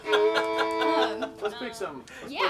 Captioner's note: women laughing; fiddle music